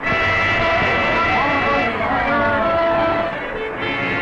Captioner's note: chatter